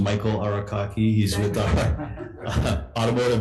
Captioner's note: chuckles; board members chuckling